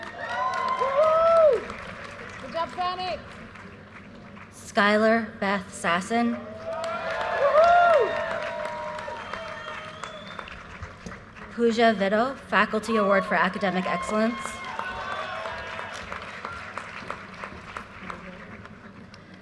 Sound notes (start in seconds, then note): 0.0 audience cheers and applause; 6.5 audience cheers and applause; 14.8 audience cheers and applause